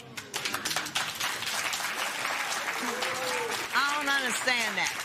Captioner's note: applause